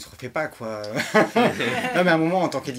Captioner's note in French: rires